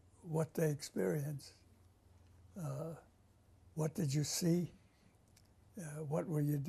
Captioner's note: pauses for 3 seconds